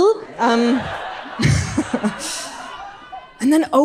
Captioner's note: audience laughs